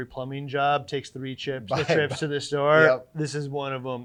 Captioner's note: laughs